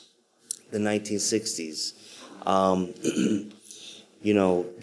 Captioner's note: clears throat